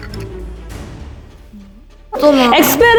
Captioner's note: heh heh